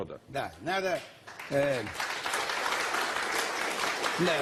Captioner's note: applause